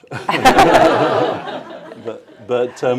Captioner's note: laughter